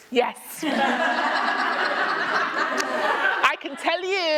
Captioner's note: laughter